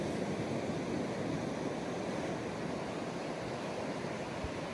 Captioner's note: Quiet ocean wind noise on Bermuda pink sand beach